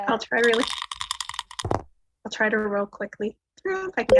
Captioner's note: die clatters